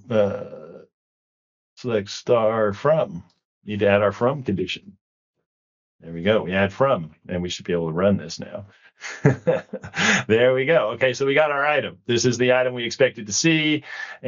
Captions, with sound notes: Select star from, need to add our from condition. There we go. We add from. And we should be able to run this now. (chuckles) There we go, okay, so we got our item. This is the item we expected to see,